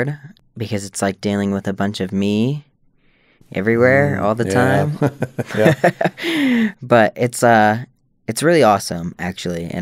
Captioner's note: laughter